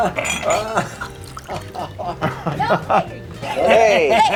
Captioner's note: laughing